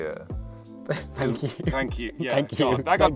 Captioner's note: chuckling